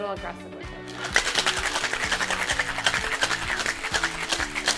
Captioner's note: ice shaking